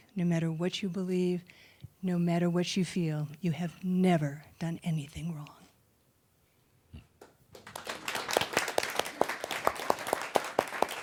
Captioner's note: applause